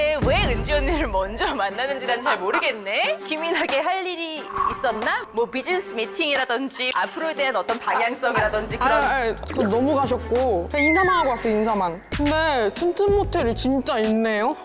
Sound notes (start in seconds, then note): 4.4 jealousy-inducing sound effect